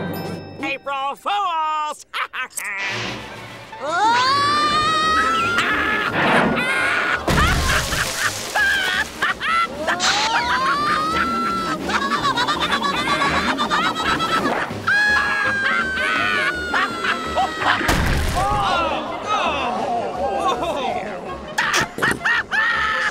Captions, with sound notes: April Fools! [laughing] Whoa! [laughing] Whoa! Whoa, whoa, whoa, whoa! [Squidward laughing] [screaming] [laughing] Oh, no. Whoa. [laughing]